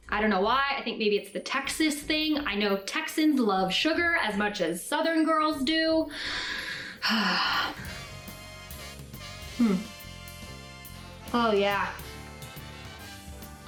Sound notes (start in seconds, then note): 6.2 sighing; 7.7 jazz festive music